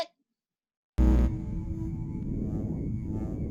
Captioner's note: buzzing